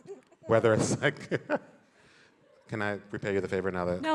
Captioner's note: laughs